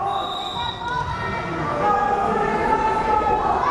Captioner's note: whistle blares